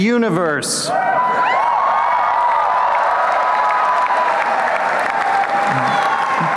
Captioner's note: applause and cheering